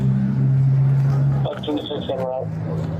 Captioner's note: radio chatter